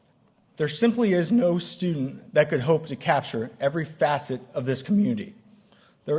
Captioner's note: none